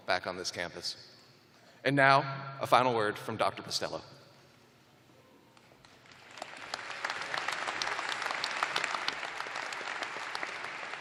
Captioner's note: applause